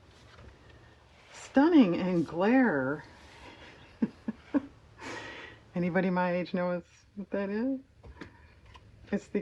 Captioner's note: laughs